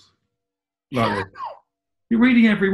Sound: laughing

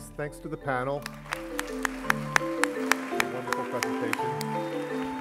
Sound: applause

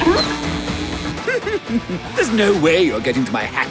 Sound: chuckling

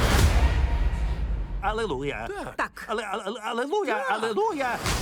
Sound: splutters

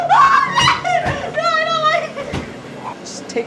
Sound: laughing hysterically; screaming unintelligibly

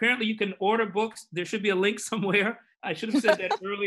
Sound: laughs

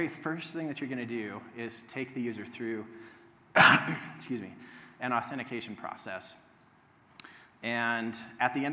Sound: sneeze

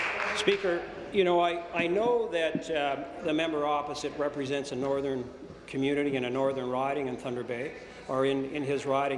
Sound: applause

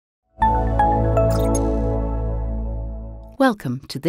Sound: logo chiming

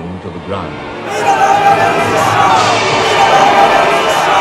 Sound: crowd; loud music

